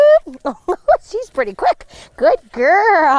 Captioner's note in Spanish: Risas